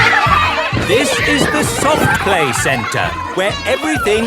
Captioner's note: loudly over shouting